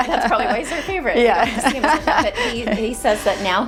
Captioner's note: laughing